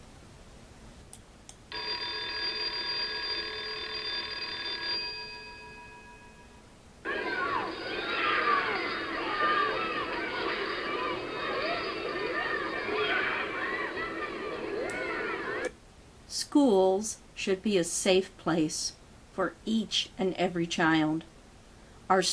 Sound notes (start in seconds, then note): 4.3 school Bell Rings; 4.3 sound of children playing